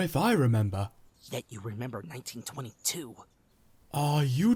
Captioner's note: whispering